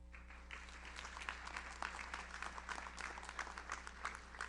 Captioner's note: audience applauds